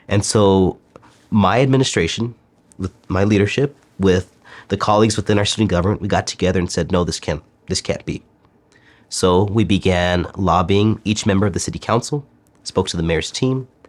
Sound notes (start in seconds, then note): none